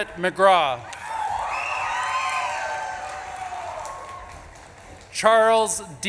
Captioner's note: audience claps and cheers